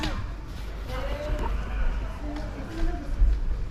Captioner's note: background chatter